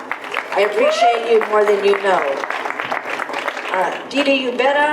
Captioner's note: audience applause